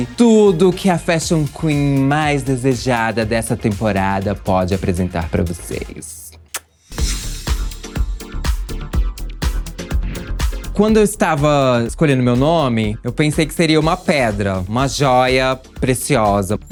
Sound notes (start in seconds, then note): 6.4 kiss; 6.9 electronic music